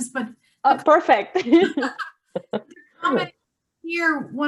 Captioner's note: both laughing